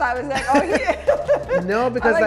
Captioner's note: laughing